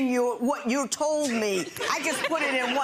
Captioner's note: laughing